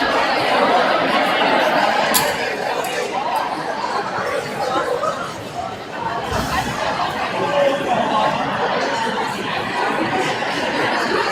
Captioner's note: crowd chattering